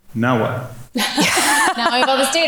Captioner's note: laugh